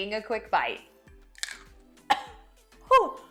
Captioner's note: crunches into pepper; coughs